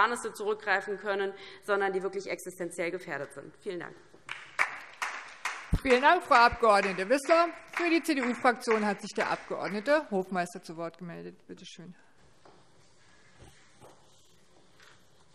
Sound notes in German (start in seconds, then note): 4.2 Beifall DIE LINKE